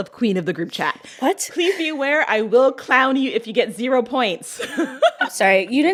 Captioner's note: laughter